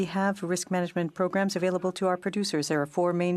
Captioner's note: speaking in French